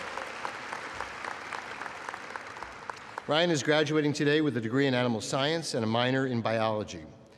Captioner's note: applause